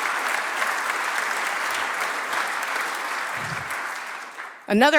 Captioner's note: applause